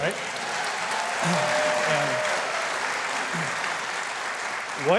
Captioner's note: crowd applauding